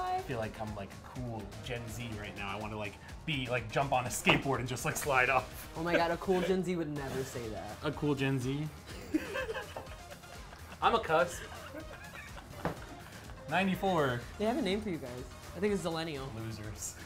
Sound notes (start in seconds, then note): 11.1 laughs